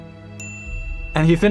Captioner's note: bell